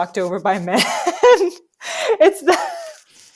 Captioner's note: laughter